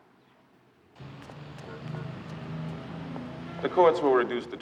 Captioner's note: horn honking